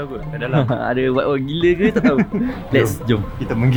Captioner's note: laugh